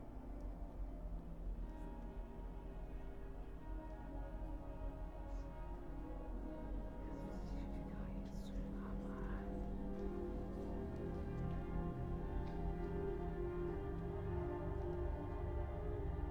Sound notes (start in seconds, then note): 7.8 voices whispering; 10.3 slow suspenseful music